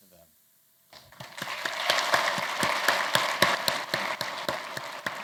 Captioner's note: applause